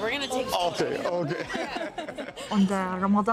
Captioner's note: everyone laughing